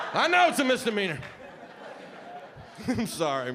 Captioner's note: audience laughing